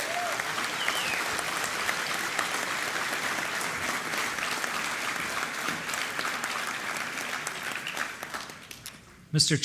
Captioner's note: applause